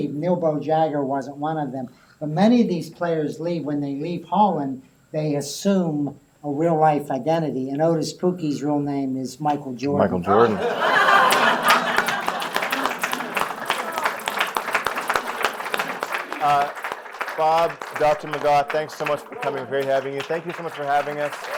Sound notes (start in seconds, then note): 10.3 laughter; 14.2 applause